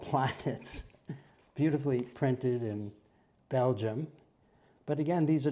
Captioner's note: laugh